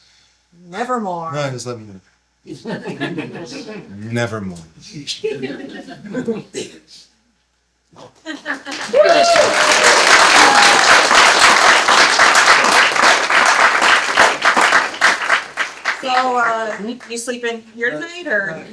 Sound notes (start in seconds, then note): 2.4 laughter; 5.7 laughter; 8.2 laughter, applause